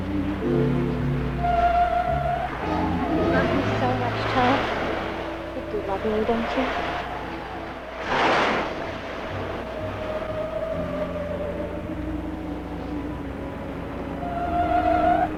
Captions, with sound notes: (waves crashing) I love you so much, Tom. You do love me, don't you? (waves crashing) (eerie dramatic music)